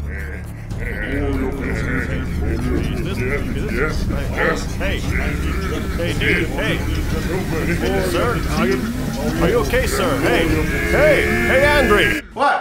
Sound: overlapping voices echo; perverted whispers of pleasure

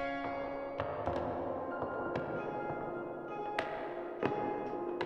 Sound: haunting and expressive piano; echoing footsteps clacking

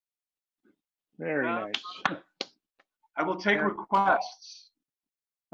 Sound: clapping

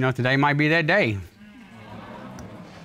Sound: audience exclaims

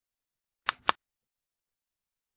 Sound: click

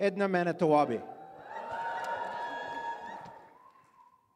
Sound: audience cheers

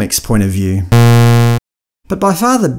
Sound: bzzz

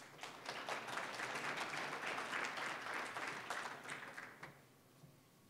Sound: applause

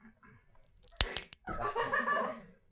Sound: cracks finger

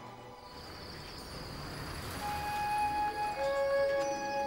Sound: crickets chirping

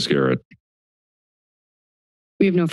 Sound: silence

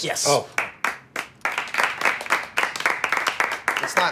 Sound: applause

